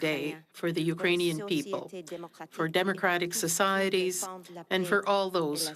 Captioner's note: speaking French